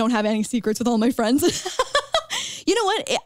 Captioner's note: chuckles